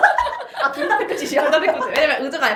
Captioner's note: laughs